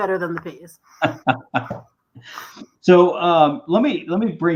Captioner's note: laughter